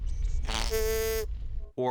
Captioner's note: snorts